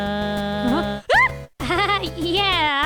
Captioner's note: shrieks